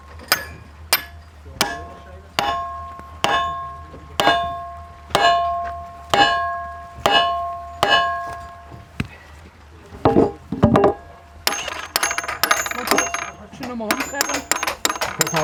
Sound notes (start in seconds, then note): 9.9 knocking